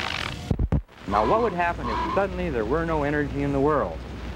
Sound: <i> deflating sound</i>; <i> deflating sound</i>

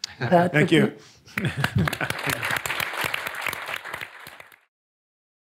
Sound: audience clapping

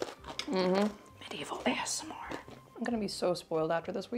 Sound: whispers

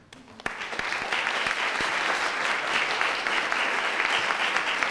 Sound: audience applauding

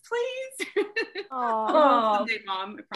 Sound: laughs

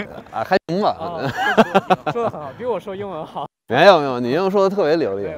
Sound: speaking in foreign language; laughter

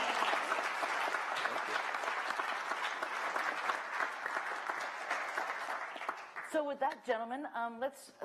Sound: applause

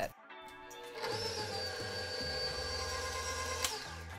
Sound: mixer whirring

